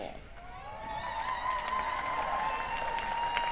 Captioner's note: cheering